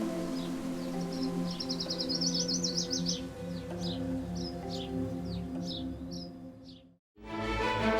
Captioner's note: birds chirping